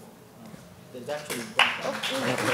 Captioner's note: audience applauding